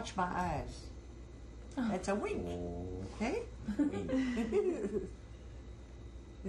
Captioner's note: laughter